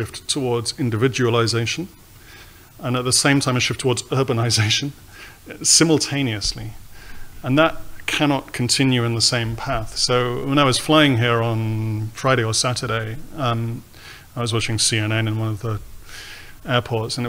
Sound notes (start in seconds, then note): none